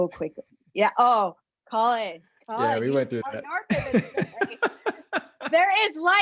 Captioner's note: laugh